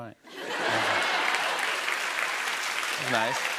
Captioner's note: laughter and applause